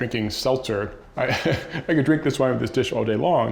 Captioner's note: laughs